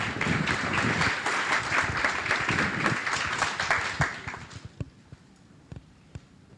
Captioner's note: applause